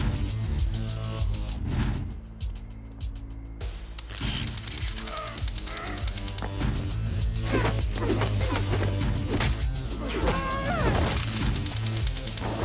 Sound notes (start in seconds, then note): 3.8 taser zapping; 5.5 agent squealing; 7.5 blows thudding; 7.5 dramatic music